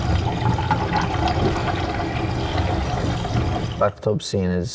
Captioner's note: water gurgling